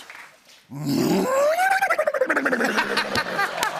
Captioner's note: whinnies; laughter